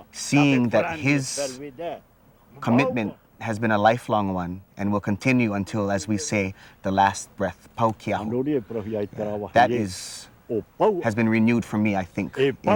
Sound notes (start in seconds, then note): 8.2 speaking Tahitian